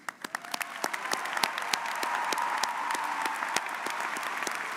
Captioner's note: audience applauds